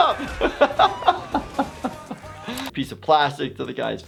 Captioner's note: laughing